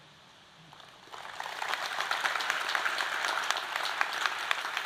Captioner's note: audience applauding